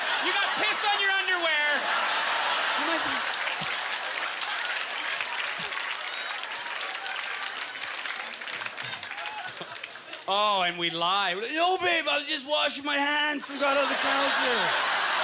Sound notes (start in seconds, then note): 2.9 audience laughter; 3.4 applause; 13.5 audience laughter; 13.6 scattered applause